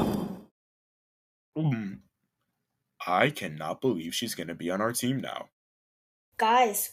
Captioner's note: gulps